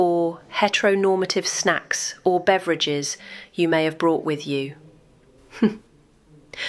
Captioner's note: laughs at her own joke